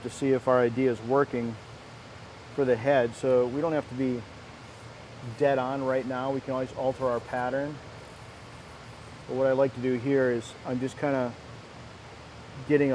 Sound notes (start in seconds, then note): 6.8 light scraping